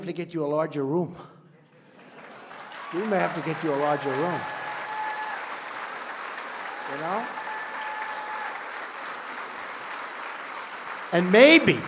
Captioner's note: laughter, applause